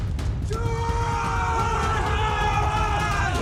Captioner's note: shouting; music climaxes and fades